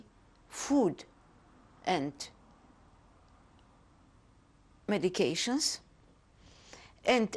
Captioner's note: pauses for 3 seconds